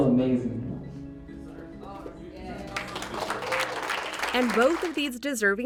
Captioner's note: applause